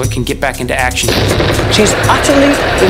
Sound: explosion booms

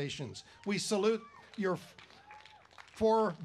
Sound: applause

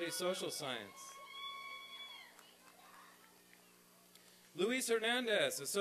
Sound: applause and cheering

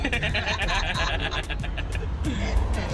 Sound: laughter

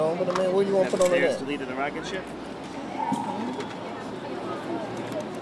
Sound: crowd

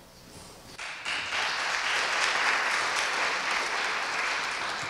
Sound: audience applauding

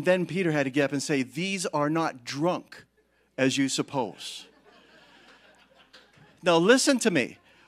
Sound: congregation laughing

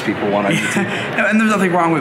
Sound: laughs

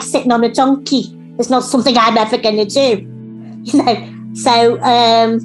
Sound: chuckles

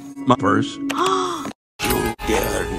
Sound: gasps

